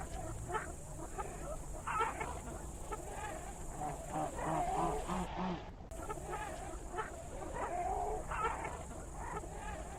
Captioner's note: jungle sounds